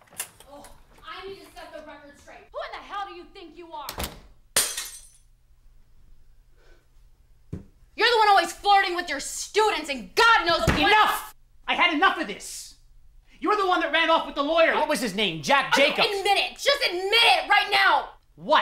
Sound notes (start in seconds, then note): 3.9 door slamming; 4.5 glass shattering